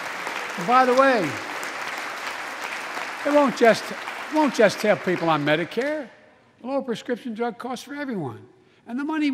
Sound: applause

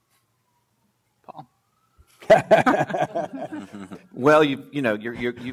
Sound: laughs

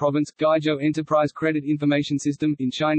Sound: in Bulgarian

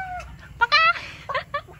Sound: imitates chicken noise; fake chicken sound

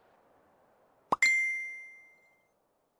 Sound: notification

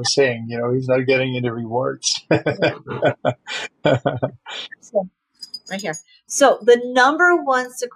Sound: laughing

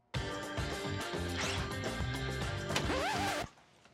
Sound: record scratch

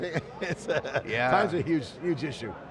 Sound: laughs

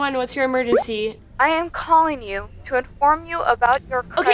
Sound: recorded Message

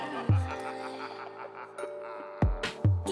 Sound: evil laugh

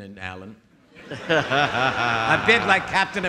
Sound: audience laughing

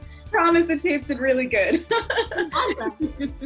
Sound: laughs

